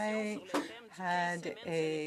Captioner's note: speaking in French